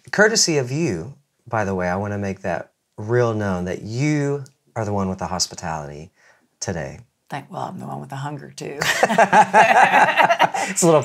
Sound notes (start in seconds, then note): 8.8 laughs